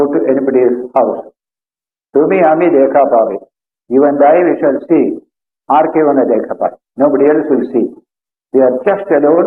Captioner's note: Bengali